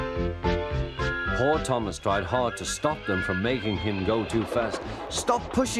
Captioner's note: Thomas brakes and whistles